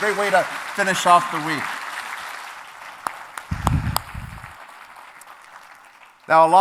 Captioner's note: applause